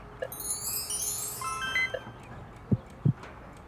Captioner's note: chiming; heart beating